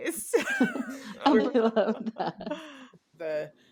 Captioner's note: laughter